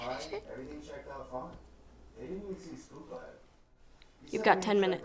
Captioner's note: TV sounds